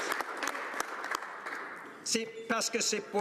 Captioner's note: applause